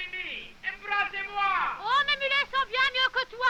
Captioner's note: all conversing in french